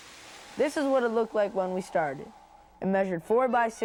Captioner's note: voiceover